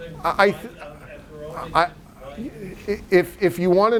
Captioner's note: stutters